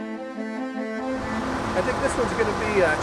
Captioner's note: gentle orchestral music; vehicle revs